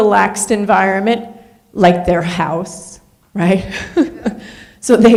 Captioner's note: laughs